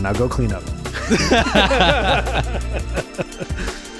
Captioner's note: laughing